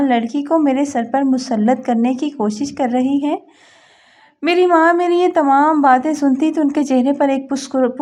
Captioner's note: gasp